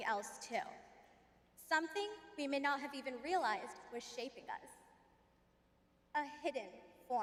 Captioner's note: none